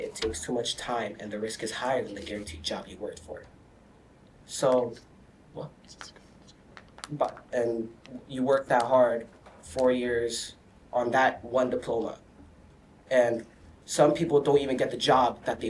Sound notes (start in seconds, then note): 5.6 students whisper